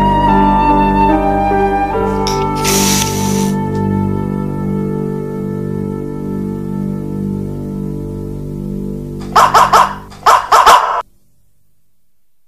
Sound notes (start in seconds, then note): 2.4 hiss!; 9.2 barks in cave